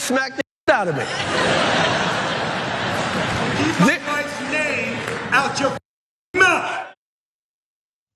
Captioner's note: laugh